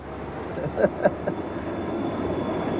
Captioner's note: laughter